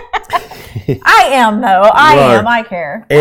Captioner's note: both laughing; laughing